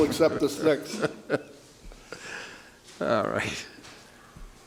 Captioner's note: judge laughs